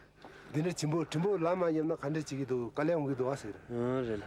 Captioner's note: Nepali spoken audio